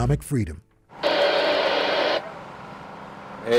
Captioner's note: radio static